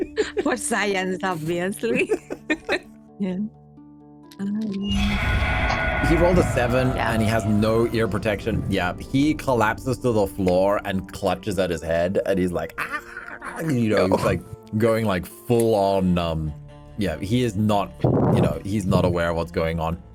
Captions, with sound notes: For science, obviously. [laughter] Yeah. He rolled a seven, and he has no ear protection. Yeah, he collapses to the floor and clutches at his head, and he's like, "Ahh!" You know, he's, like, going, like, full-on, um, yeah. He is not, you know, he's not aware of what's going on.